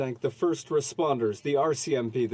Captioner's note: speaking French